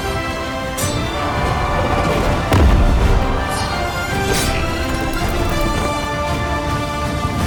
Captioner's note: warriors shouting; blade clinking